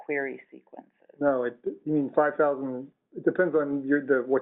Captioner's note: voiceover